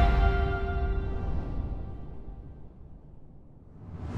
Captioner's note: air whooshing